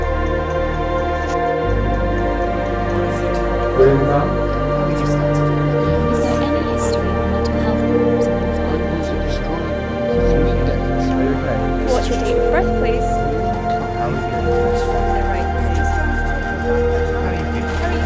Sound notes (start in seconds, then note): 9.3 faint chattering; 13.7 people chattering